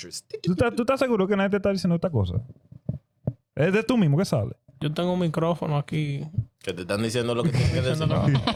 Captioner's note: speaking In Foreign Language